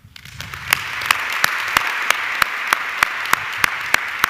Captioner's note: audience clapping